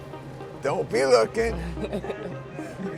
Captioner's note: laughs